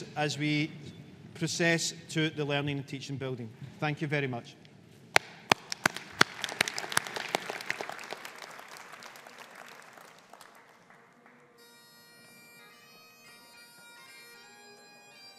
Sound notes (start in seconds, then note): 5.2 audience applauding; 11.6 bagpipes playing